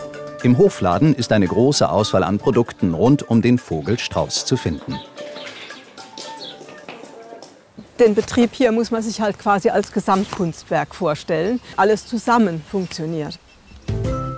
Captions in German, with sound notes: Im Hofladen ist eine große Auswahl an Produkten rund um den Vogelstrauß zu finden. (Vogelzwitschern) Den Betrieb hier muss man sich halt quasi als Gesamtkunstwerk vorstellen. Alles zusammen funktioniert.